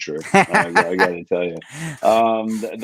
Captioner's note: laughs